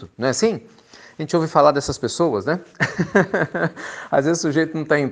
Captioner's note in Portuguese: risos